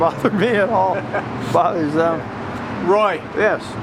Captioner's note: interviewer laughing